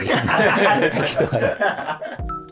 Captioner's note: laughing